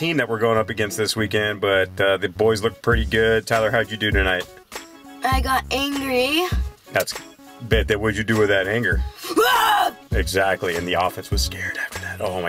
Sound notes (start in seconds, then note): 9.3 screams